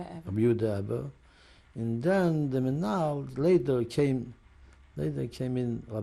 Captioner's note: non-english